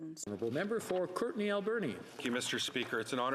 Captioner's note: speaking French